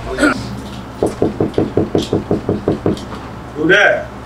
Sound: knocking

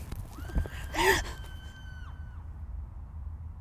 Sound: scream

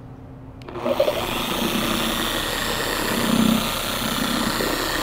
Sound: polisher vibrating

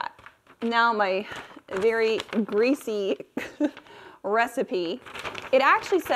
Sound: paper crinkling

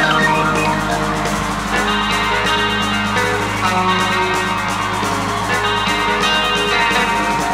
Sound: crowd cheering; suspenseful rock music

